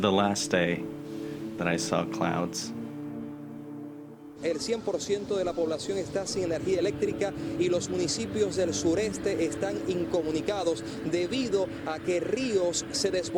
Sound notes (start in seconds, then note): 4.4 news in Spanish